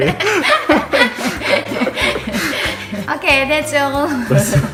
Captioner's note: laughter